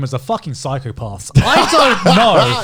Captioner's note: laughs